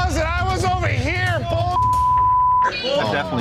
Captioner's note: beep